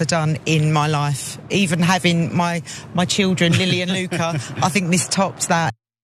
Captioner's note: laugh